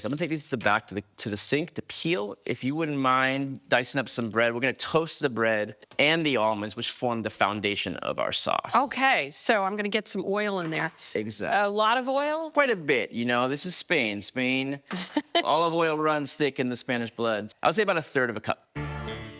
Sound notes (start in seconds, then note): 14.9 laughs